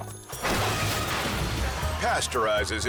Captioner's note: milk splashes